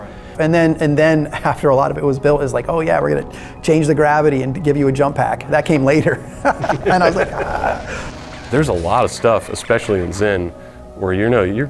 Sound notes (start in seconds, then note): 6.0 laughing